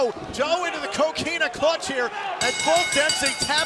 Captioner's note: bell ringing